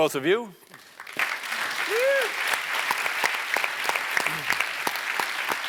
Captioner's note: applause